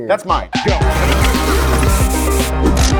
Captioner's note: brakes squeal; spray paint sprays; upbeat music